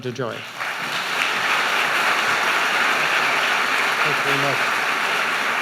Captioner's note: audience applauding